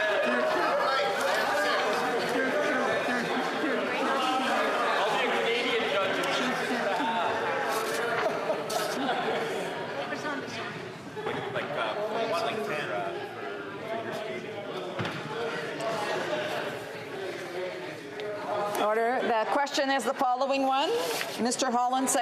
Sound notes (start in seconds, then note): 2.0 crowd Noise